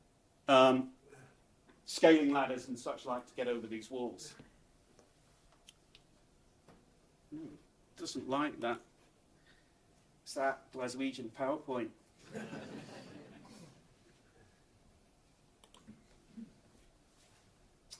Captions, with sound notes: scaling ladders and such like to get over these walls. Doesn't like that. It's that Glaswegian PowerPoint. (audience laughs)